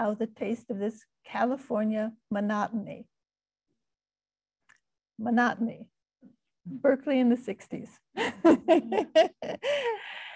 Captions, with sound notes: "the taste of this California monotony." But not me, Berkeley in the 60s (laughing).